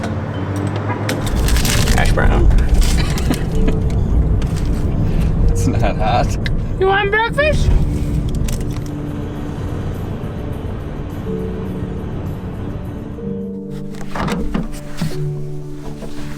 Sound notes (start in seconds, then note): 3.0 cameraman laughing; 8.5 slow piano music